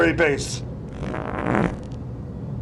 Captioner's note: farts